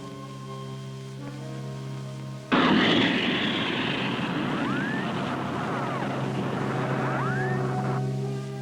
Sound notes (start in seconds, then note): 2.5 rocket rumbling